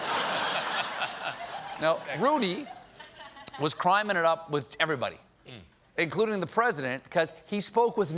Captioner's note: laughter